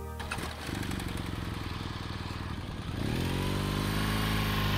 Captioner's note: motorcycle revving